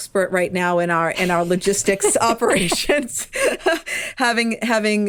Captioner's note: chuckles